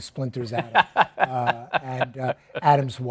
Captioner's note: laughs